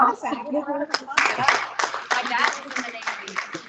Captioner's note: students applauding